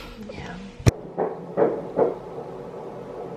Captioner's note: sound of heartbeat